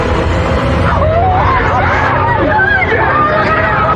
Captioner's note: allll s screaeamiming